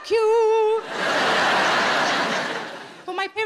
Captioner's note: audience laughing